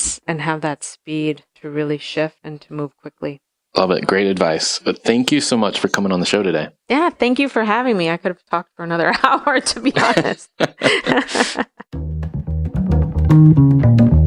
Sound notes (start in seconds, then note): 9.2 laughing; 11.9 jazz music